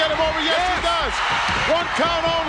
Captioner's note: audience cheers